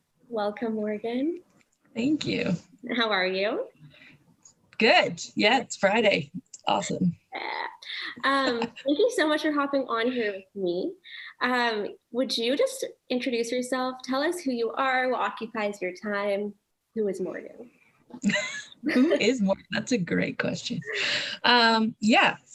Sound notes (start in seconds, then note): 18.2 laughs